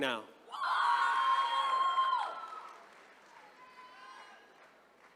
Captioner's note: attendees cheering